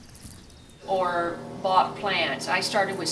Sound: airplane above

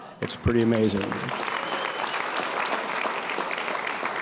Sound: applause

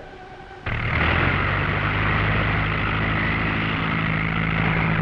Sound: engine rumbling

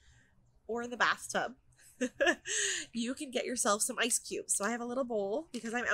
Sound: laughter

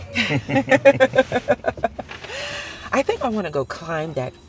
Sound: both chuckle

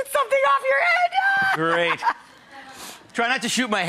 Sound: laughing

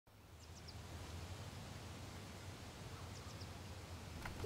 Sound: birds chirping

